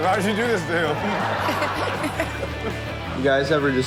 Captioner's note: audience laughs